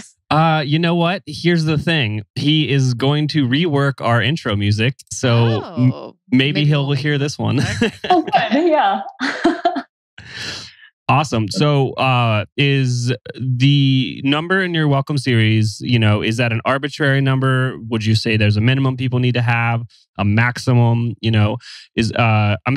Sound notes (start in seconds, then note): 0.0 laughs; 8.9 laughs; 11.1 laughs